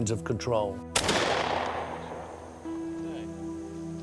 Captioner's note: shot banging